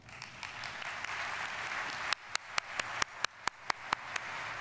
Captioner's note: audience applauding